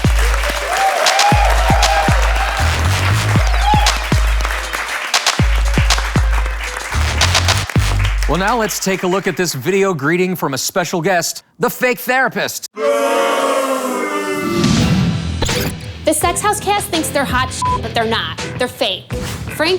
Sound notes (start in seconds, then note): 0.1 audience cheers; 12.7 audience booing